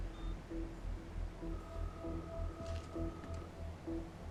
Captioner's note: line ringing